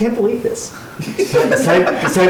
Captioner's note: laughter